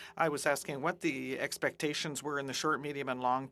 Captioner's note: speaking French